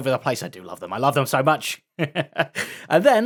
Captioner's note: laughs